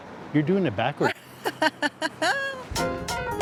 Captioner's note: laughs